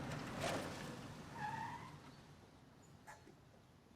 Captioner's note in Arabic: صرير المكابح